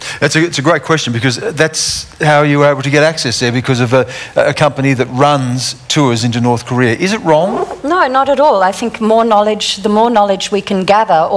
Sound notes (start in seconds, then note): none